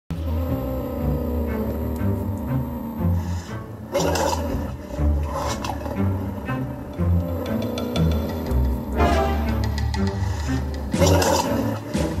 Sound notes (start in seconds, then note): 0.7 growling; 3.6 snarling; 5.6 purring; 9.2 snarling